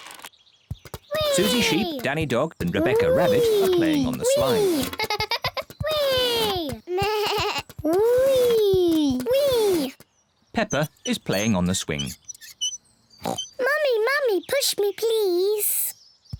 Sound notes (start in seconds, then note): 6.5 bleats; 13.2 oinks